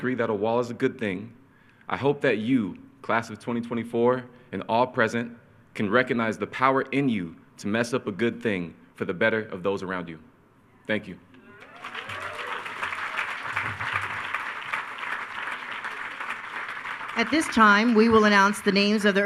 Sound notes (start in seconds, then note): 11.4 attendees cheering